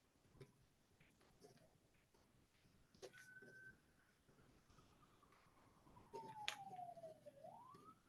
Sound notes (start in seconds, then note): 4.8 police siren blaring